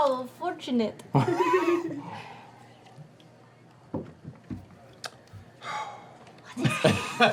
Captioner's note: sighs